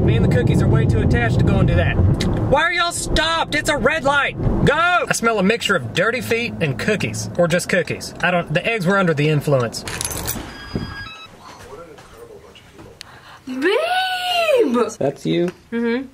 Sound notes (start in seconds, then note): 9.9 pieces cracking; 10.2 doorbell; 13.0 gasps